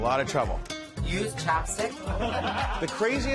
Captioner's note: laughter